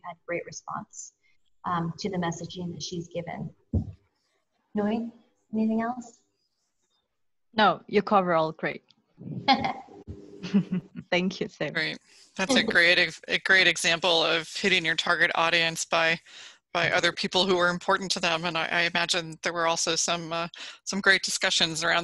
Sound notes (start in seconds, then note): 10.4 laughs